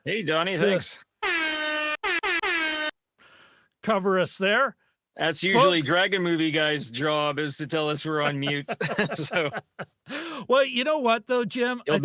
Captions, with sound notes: Hey, Donnie, thanks. (horn blaring) Cover us there. Folks. That's usually Dragon Movie Guy's job, is to tell us we're on mute. (laughing) So, we're on mute. So. Well, you know what though, Jim?